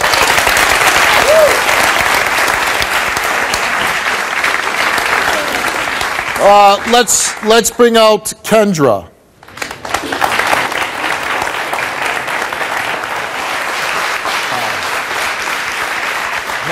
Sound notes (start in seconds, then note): 0.9 audience cheers; 9.4 audience applauds